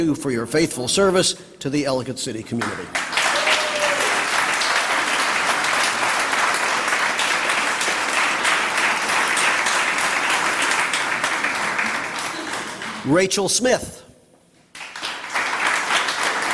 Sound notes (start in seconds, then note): 4.3 applause; 14.7 applause